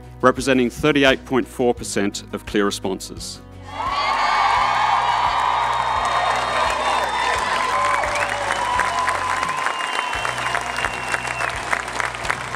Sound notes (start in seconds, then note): 3.9 audience cheers